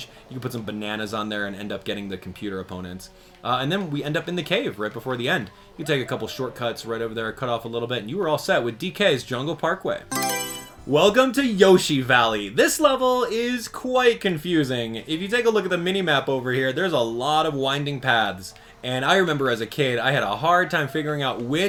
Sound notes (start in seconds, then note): 10.1 Mario Selection Sound